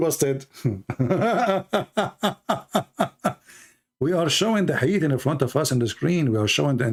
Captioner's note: Ketawa